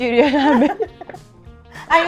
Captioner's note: chuckles